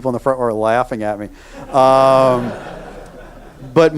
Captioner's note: audience laughing